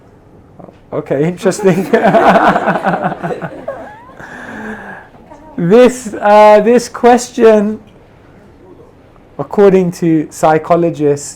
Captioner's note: laughs